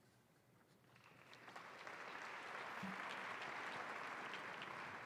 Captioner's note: audience applauding